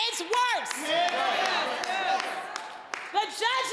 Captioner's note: audience applauding